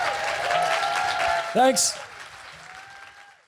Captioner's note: applause and cheering